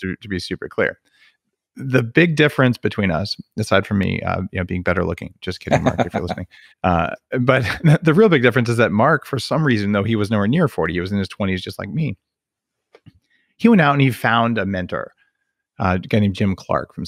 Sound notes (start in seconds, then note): 5.6 laughs